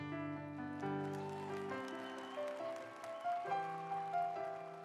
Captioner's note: audience applauds